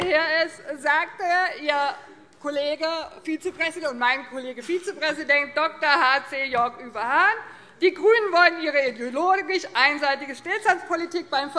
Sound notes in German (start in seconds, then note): none